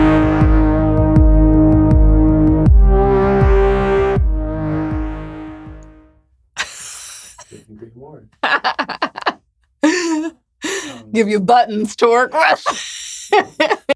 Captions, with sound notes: (laughs) Give you buttons to work with! (laughs)